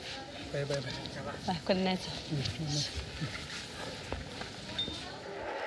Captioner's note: both speaking foreign language